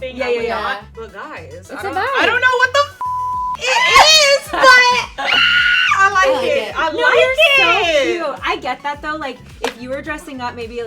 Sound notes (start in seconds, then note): 2.9 beep; 5.3 she screams